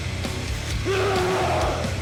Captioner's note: Dark Shadow lets out an angry grunt